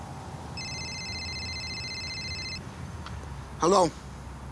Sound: phone rings

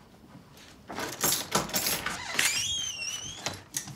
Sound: door creaks; keys clink; lock rattles

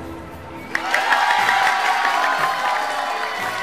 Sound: cheering

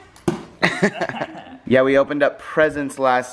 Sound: laugh

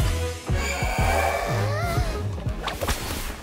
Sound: gasps

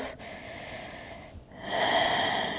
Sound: inhaling deeply; exhaling strongly

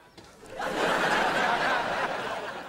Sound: laughing

